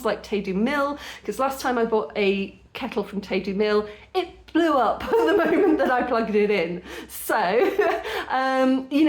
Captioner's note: laughing